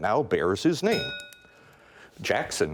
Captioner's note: bell rings